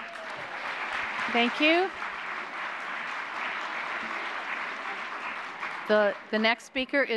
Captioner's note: applause